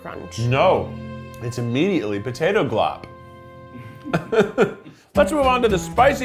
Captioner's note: chuckling